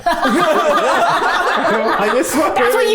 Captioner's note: everyone laughs